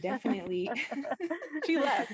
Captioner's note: laughter